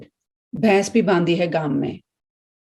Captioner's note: speaking in Hindi